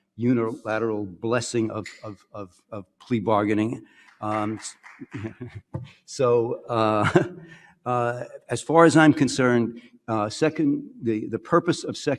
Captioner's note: some audience clapping